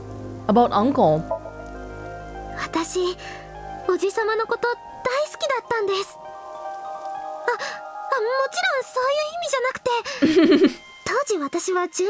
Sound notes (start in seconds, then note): 10.2 chuckles